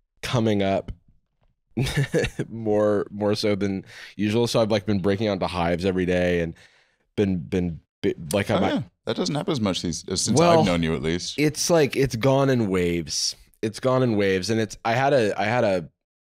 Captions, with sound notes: coming up... (laughing) more so than usual, so I've been breaking out into hives every day, and been... Oh, that doesn't happen as much since I've known you, at least. It's gone in waves. It's gone in waves, and I had a...